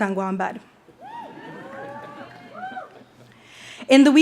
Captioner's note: speaks foreign language; audience cheers